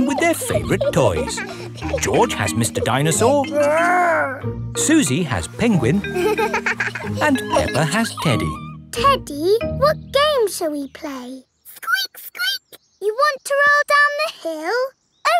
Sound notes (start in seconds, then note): 6.0 giggles